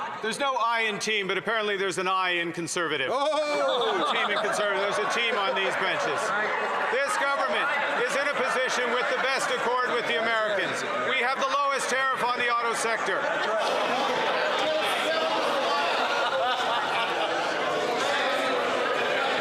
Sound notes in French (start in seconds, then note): 1.9 voix de l'interprète